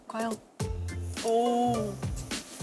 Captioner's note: sizzle